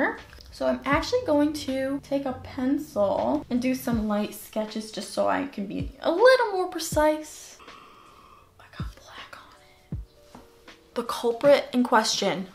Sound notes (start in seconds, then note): 7.6 gasp